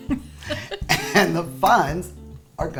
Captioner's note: laughs